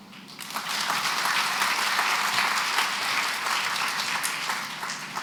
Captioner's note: applause